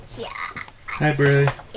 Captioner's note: babbling